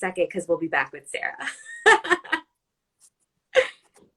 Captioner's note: laughs